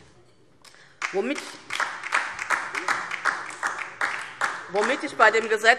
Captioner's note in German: Beifall DIE LINKE